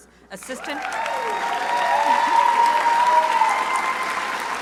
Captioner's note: crowd applauding